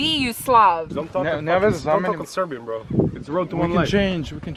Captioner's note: speaks Serbian